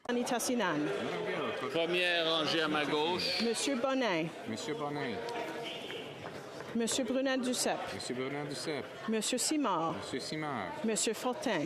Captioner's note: calling of recorded vote